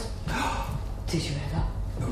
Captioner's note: gasps